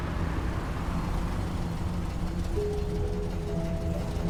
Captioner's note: engine rumbling